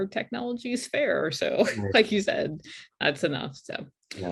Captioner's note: laughs